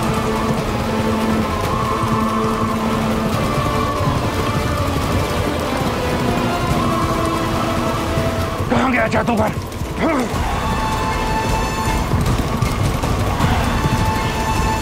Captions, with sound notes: [wind whooshing] Where did the magician go? [eerie music playing]